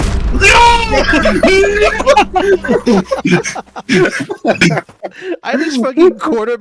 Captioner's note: laughter